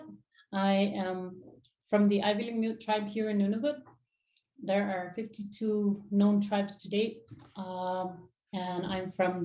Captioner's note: inuktitut